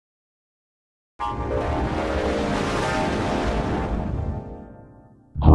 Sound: 8-Eyed Devil Windows XP Startup Sound

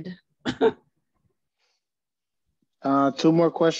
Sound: chuckles

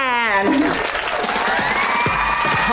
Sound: cheering, applause

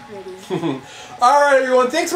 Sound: laughs

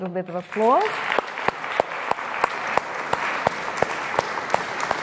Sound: audience applauding

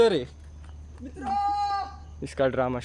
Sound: screaming in dramatic voice

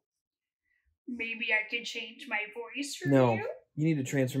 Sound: low, nasally voice

